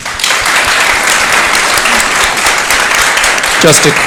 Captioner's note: applause